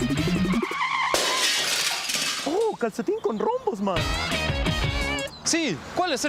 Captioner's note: crashing sound